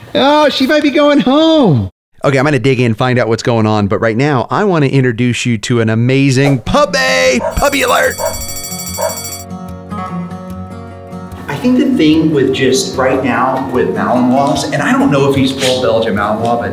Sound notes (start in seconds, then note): 7.3 dog barking; 7.4 bell ringing; 10.9 gentle music